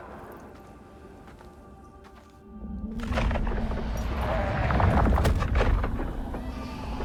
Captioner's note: wind blowing